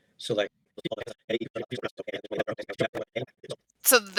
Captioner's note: audio fast forwards